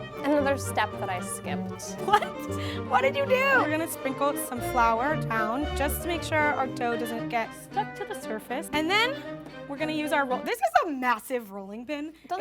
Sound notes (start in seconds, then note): 1.9 laughs